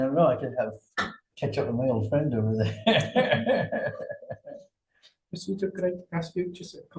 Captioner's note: laughs